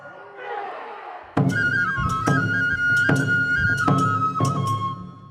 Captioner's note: dancers chanting in foreign language